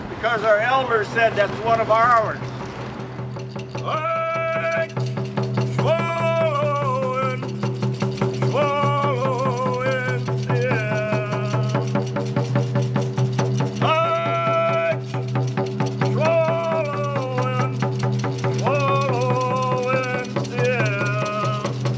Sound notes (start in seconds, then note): 2.9 drumming; 4.1 chanting in native language